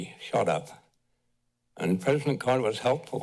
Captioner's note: pause